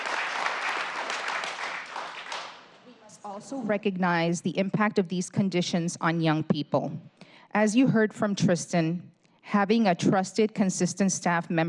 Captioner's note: applause